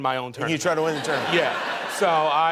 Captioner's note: laughing